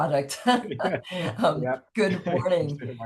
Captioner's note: laughing